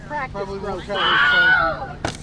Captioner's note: screams